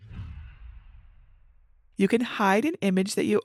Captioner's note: image whooshes